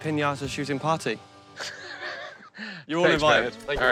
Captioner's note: laughs